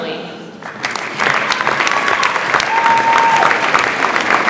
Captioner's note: audience applauds